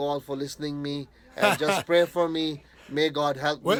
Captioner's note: interviewer laughing